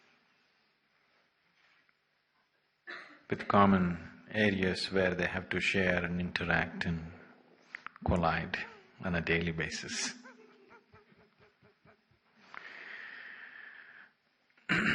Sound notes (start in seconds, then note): 9.7 laughs